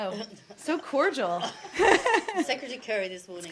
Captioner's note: laughter